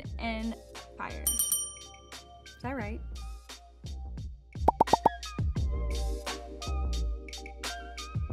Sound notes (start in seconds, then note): 1.2 dinging; 4.7 upbeat music